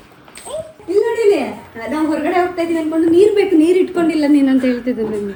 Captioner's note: laughs